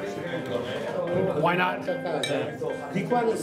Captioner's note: glasses clink